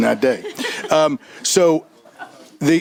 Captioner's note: chuckling